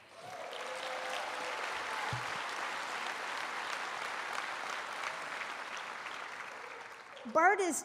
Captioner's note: applause, cheers